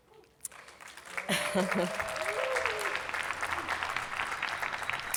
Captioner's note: attendees clapping